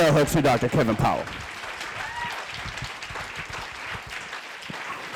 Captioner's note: audience clapping